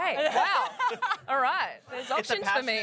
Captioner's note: laughter